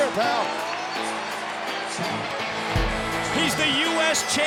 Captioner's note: crowd cheering